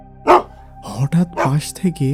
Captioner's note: dog barking